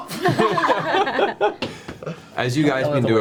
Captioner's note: all laugh